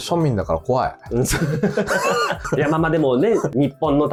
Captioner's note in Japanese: 笑い